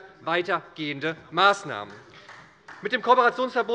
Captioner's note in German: Beifall bei der SPD